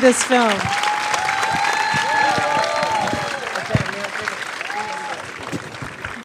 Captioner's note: applause